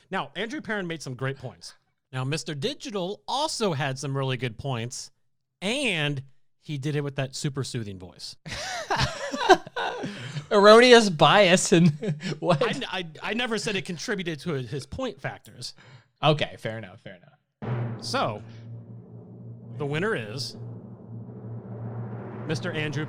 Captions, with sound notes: Now, Andrew Perrin made some great points. - Now, Mr. Digital also had some really good points and he did it with that super soothing voice. (guys laughing) - Erroneous bias and what? - I never said it contributed to his point factors. - Okay, fair enough fair enough, fair enough. - So, the winner is Mr. Andrew Perrin, round of applause.